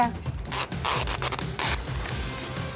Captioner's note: tape pulling